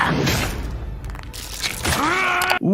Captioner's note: The Immortal roaring; knuckles cracking; The Immortal yelling